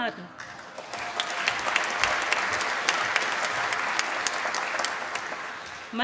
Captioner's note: applause